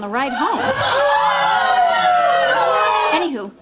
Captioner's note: disquieted screams